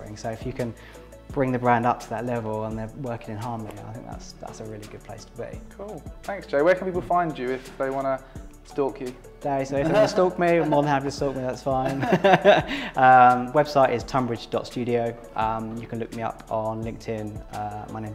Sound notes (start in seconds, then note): 9.8 laughing; 11.8 laughs